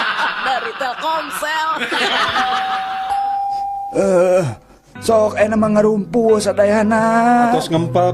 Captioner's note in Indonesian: tertawa